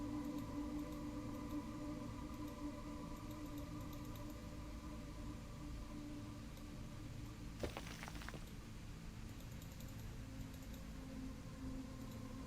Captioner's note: clicking sounds